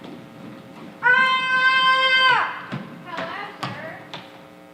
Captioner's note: Polyphemus screams